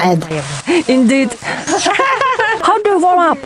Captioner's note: laugh